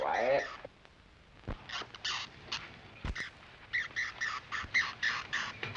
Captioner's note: bat squeak